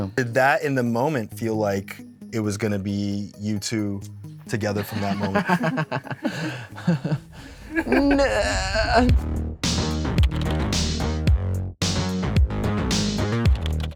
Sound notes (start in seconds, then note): 4.7 Devon laughs; 7.7 Anthony giggles